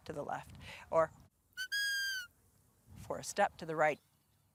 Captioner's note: whistles